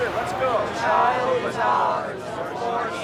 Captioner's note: crowd chattering